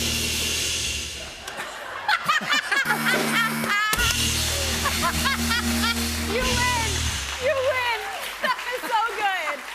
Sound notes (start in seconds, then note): 1.5 laughing; 2.8 buzzer; 4.2 laughter